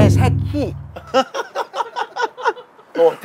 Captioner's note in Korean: 웃음